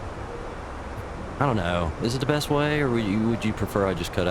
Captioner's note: radio chatter